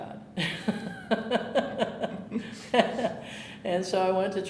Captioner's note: laughing